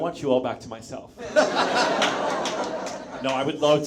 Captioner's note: audience laughs; Bill laughs